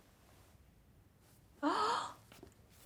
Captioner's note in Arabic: شهقة